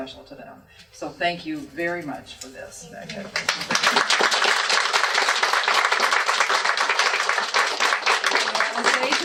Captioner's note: applause